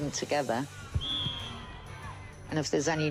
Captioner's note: whistle blows